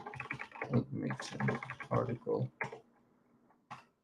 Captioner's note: keyboard clacking